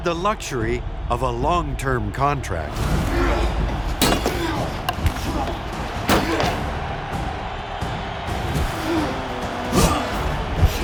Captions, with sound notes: the luxury of a long-term contract. (grunts) (shouts from the crowd)